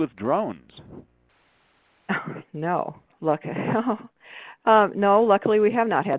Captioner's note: laughs